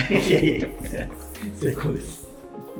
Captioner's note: laughing